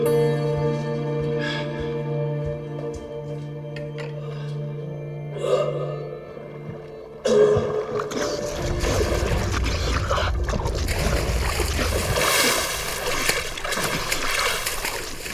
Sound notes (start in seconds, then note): 7.2 coughing